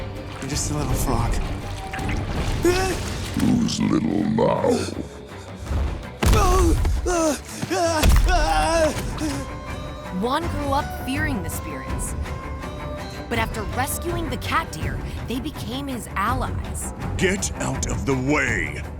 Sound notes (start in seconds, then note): 0.3 sighs; 7.0 gasping